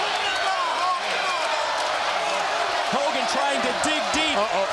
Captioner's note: crowd cheering